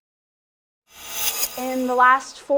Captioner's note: whizzes